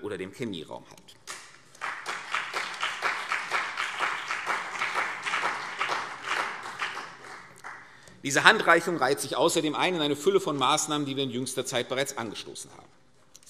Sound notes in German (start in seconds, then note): 1.2 Beifall CDU und BÜNDNIS 90/DIE GRÜNEN